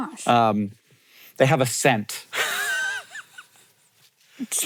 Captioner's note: sniffs; laughs